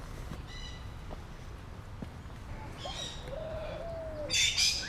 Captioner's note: birds chirping